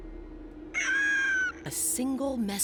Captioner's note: squawking